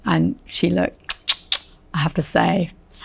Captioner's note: tongue clicking